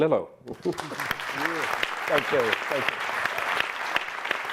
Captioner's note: audience clapping